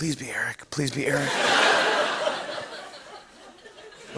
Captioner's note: laughter